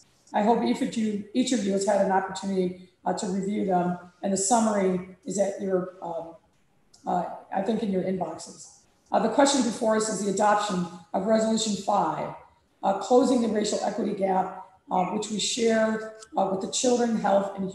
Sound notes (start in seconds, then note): none